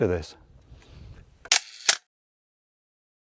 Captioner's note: camera clicks